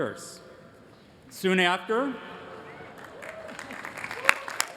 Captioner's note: applause